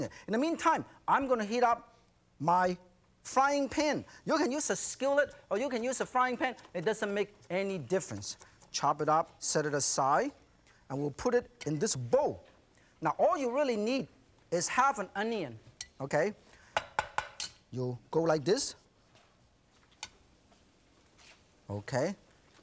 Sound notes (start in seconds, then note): 16.8 sharp tapping